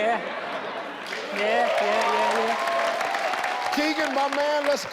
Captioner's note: audience cheers